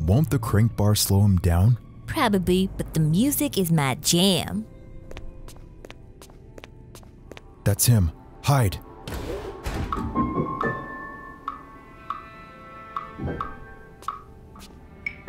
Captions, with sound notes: - Won't the crank bars slow him down? - Probably, but the music is my jam. (footsteps) - That's him. Hide! (ominous music)